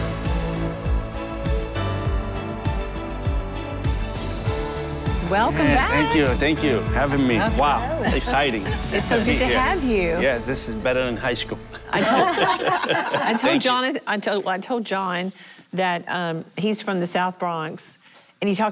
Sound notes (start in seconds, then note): 12.0 laughing